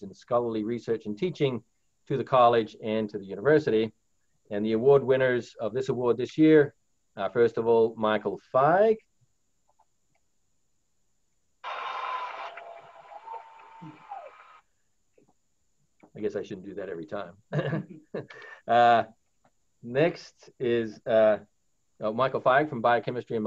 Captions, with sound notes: in scholarly research and teaching to the college and to the university and the award winners of this award this year, first of all, Michael Feig, (crowd applauds) I guess I should do that every time. Next is Michael Feig from biochemistry